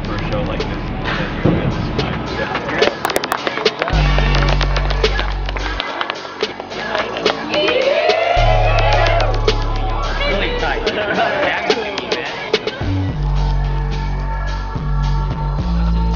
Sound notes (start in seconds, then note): 2.9 hands clapping; 7.7 crew members cheering; 10.2 crew members chattering; 12.9 chill hip hop music